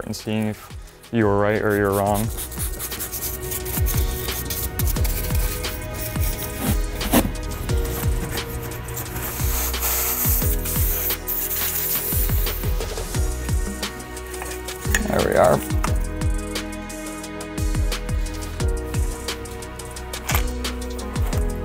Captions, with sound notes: and seeing if you were right or you were wrong. (upbeat music) (brush scratches) There we are. (upbeat music)